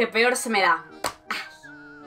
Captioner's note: sighs